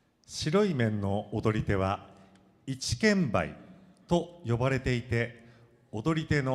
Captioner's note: speaking foreign language